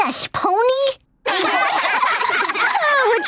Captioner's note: laughing